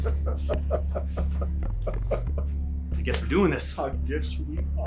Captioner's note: person laughing